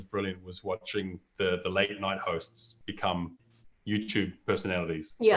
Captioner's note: chuckles